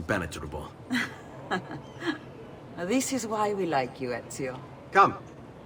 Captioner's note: laughs